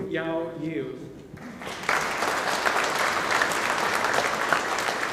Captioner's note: audience applauding